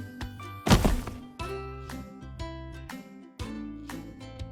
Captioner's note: thud